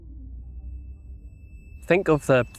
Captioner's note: ringing